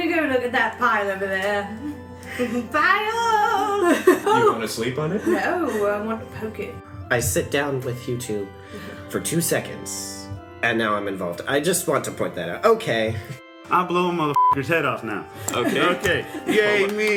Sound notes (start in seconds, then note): 3.8 laughs